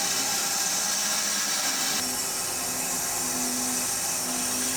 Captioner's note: saw whirring continues